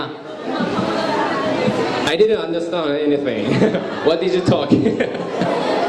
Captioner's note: laugh